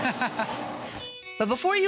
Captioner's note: laughs